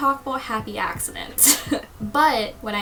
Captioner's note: laughs